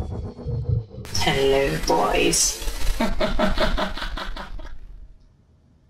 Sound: laughter

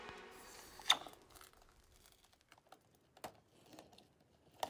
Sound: air sucking

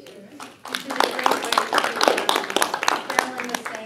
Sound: applause

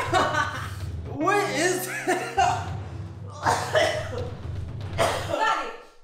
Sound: coughs

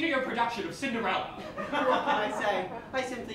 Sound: laughter

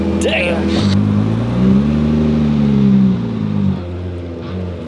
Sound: engine revving

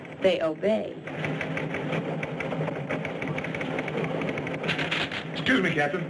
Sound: typewriter clicking

